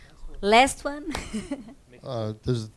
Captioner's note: laughs